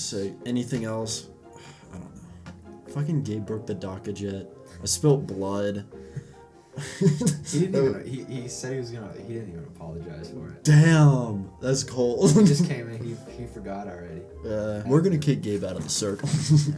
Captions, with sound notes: sick, anything else... *sigh* I don't know fuckin' Gabe broke the dakka jet I spilt blood *laughs* he didn't even- he- he said he was gonna- he didn't even apologise for it. Damn! thats cold. he just came in he- he forgot already. we're gonna kick Gabe out of the circle *chuckle*